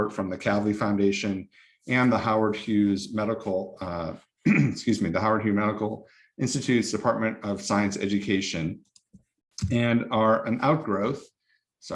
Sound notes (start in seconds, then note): 4.4 clears throat